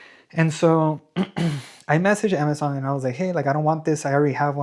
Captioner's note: clears throat